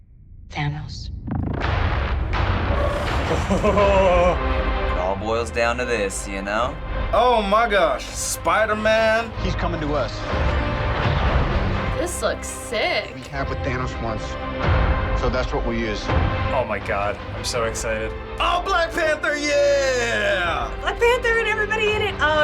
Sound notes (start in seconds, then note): 1.6 exhilarating music; 3.4 excited